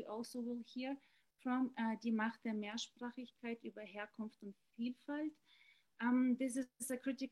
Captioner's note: speaking german